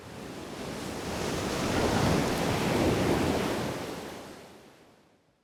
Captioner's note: waves crashing